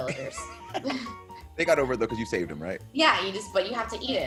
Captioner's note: laugh